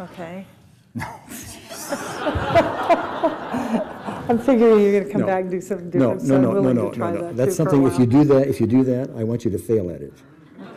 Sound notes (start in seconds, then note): 1.0 laughs; 1.4 scoffs; 10.3 laughs